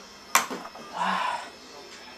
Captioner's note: sighing